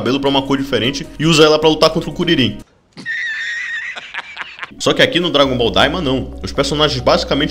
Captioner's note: laugh